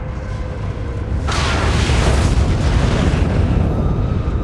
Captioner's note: thunderous sound